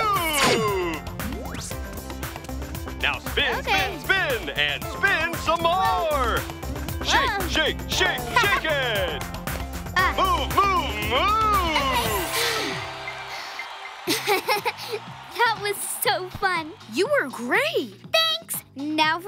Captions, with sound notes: -Now spin, spin, spin... Okay. -...and spin some more! Shake, shake, shake, shake it! Move, move, moooove! [gasp] [laugh] That was so fun. You were great. Thanks. Now for my score!